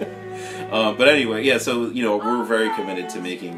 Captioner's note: laughs